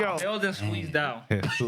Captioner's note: laughing